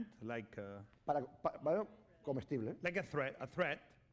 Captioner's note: speaking spanish